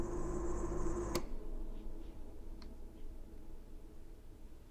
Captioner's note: switch clicking